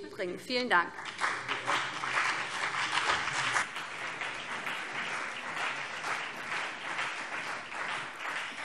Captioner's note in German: Beifall BÜNDNIS 90/DIE GRÜNEN und CDU